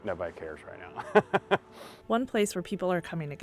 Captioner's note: laughing